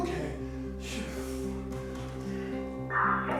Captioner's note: radio crackles